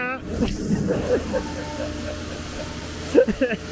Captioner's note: both laugh